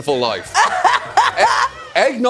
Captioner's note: laughing